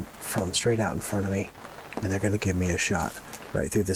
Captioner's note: rain